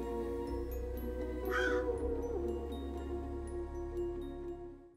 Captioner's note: eerie music continues; crow calls